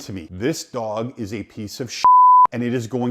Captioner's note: beep